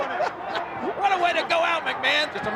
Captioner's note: king laughs